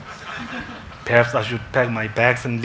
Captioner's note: congregation laughs